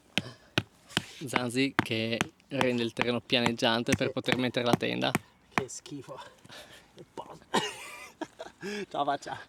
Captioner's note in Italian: risate